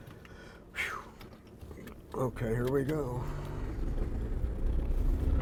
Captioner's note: exhales